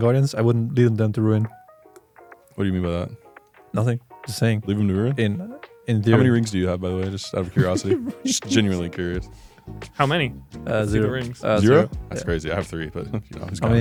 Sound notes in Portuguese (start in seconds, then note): 7.4 risos